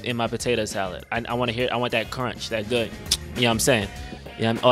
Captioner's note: smacks lips